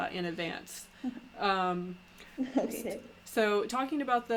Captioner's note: laughs